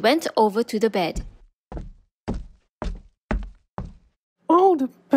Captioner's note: footsteps